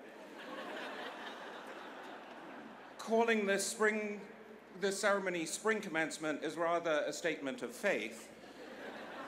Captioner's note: laughter